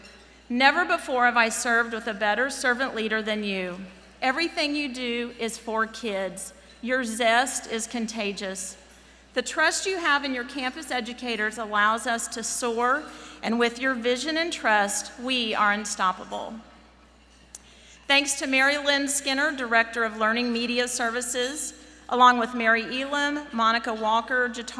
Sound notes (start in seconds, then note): none